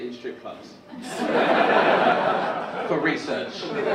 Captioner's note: audience laugh